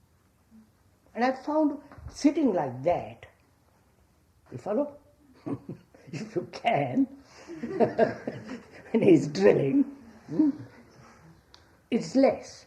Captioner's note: laughs